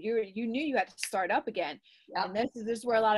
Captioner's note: snaps